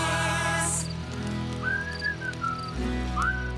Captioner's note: whistling